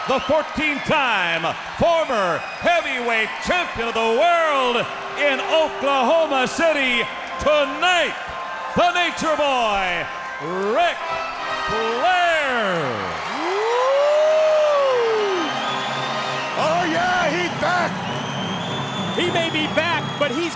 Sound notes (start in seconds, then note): 17.2 crowd cheering